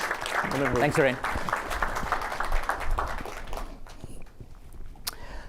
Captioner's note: applause